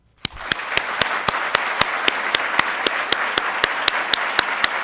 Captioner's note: audience applauds